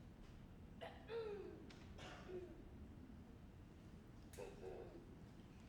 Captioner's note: performer clears throat